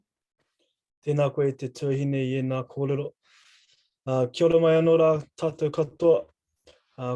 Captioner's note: speaking in foreign language